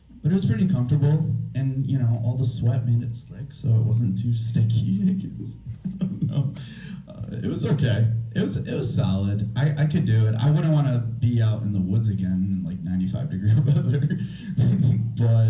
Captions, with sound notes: but it was pretty comfortable, and, you know, all the sweat made it slick, so it wasn't too sticky, like it was... (laughs) I don't know. It was okay. It was solid. I could do it. I wouldn't want to be out in the woods again in like 95-degree weather, (laughs)